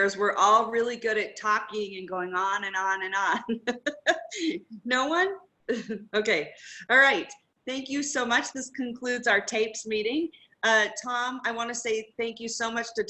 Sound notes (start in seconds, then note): 3.3 laughs